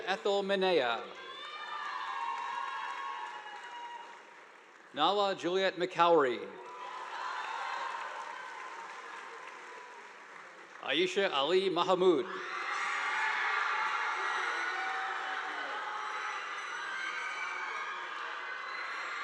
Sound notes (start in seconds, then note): 1.1 audience applauding; 6.6 audience applauding; 12.3 students cheering; 12.4 audience applauding